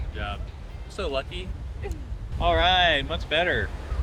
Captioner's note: laughing